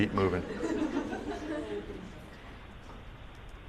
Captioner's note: laughter